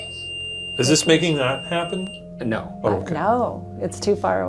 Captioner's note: EMF beeping